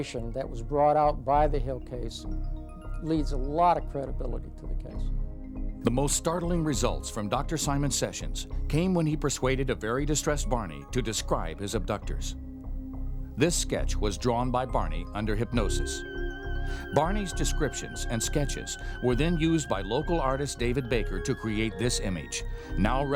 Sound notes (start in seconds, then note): 6.2 voiceover